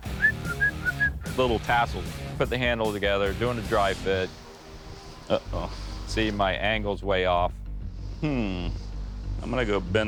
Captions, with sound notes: [whistles] little tassels. Put the handle together, doing the dry fit. Uh-oh. See, my angle's way off. Hmm.